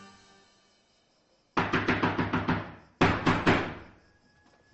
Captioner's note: furiously knocking at the door